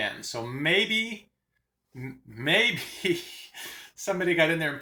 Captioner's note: chuckles